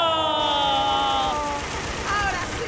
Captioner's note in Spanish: Aplausos